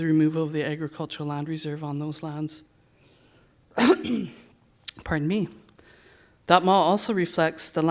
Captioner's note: coughs